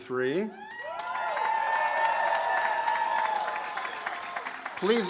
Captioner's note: audience cheers